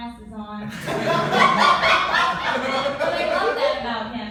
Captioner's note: laughter